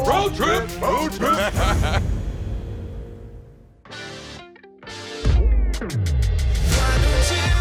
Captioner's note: laughs